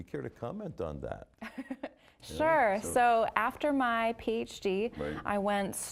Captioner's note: laughing